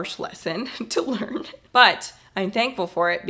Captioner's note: laughing